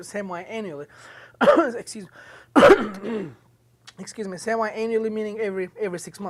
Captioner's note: coughs